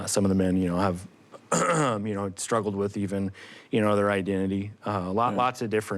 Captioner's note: clears throat